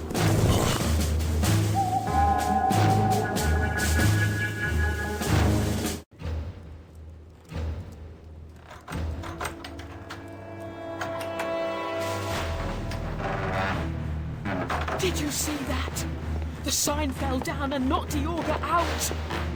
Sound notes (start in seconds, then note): 1.6 tense music; 1.6 ominous bird; 6.3 door noises; 6.3 tense music